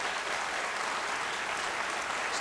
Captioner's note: applause